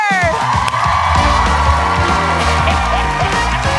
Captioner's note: applause